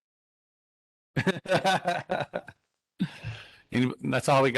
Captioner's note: laughing